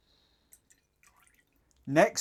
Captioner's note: liquid pouring